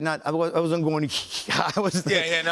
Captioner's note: breathing rhythmically